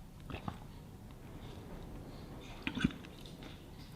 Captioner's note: swallows